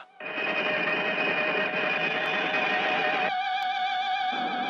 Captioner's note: laser blasting